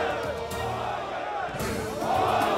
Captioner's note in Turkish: Hep bir ağızdan